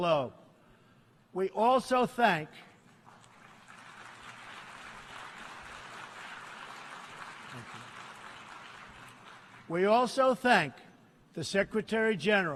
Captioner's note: applause